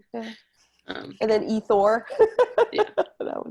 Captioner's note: laughter